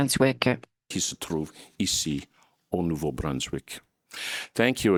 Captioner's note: speaking in French